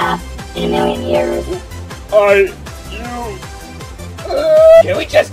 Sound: Coin cries

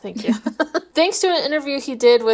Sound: laughing

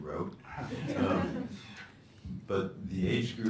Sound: laughter

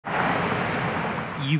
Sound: Traffic

